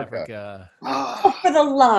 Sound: sighing

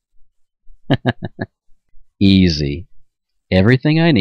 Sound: chuckles

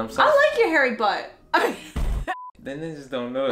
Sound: laughing

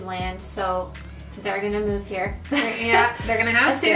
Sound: laughs

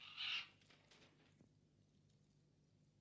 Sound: squawks

